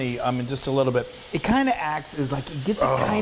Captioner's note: groaning